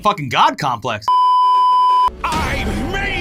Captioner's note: beeeeeep